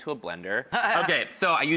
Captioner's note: laughs